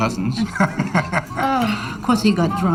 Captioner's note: man laughing